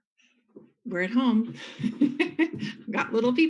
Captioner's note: laughs